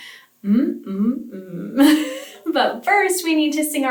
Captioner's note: laughs